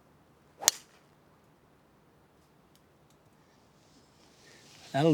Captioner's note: golf ball cracking